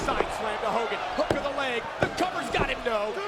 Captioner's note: ref's palm thudding